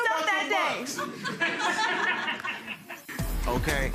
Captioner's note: crowd laughs; upbeat music